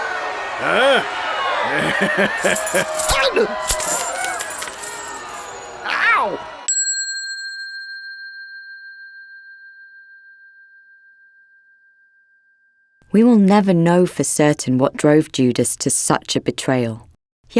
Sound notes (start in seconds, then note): 1.6 Pharisee laughing approvingly; 3.5 coins clattering; 6.6 bell dinging